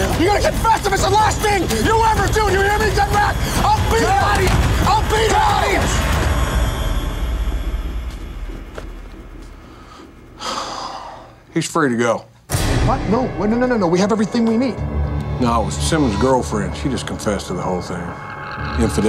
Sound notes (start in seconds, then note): 4.5 man shouts; 10.2 sighs; 12.5 dramatic music